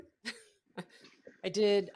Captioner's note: laughs